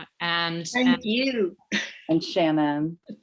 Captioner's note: laughs